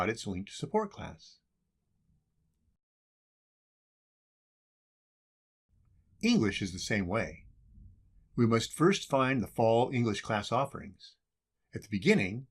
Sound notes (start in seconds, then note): 1.5 silence